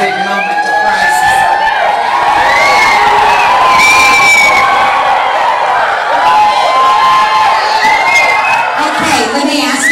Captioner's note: audience cheering